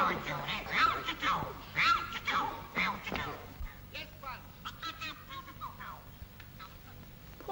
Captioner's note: puppet makes strange voice